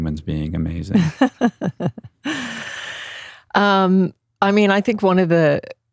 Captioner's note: laughs